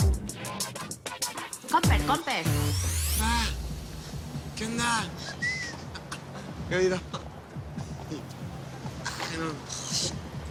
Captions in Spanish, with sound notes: CON PER, CON PER... - ¿QUÉ ONDA? ¿QUÉ ONDA? [Silbidos] [Risas]